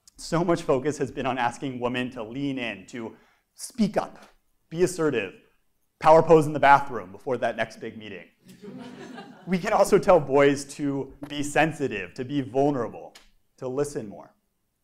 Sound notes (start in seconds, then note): 8.5 laugh